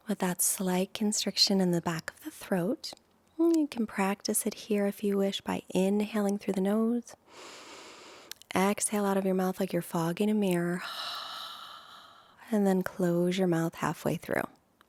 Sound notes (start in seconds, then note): 7.2 inhales in deeply; 10.8 exhales out deeply